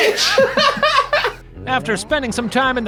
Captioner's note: laughs